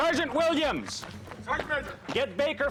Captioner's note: shouting